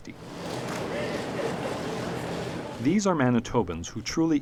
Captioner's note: crowd sounds